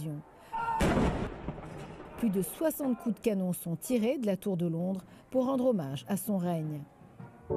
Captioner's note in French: coup de canon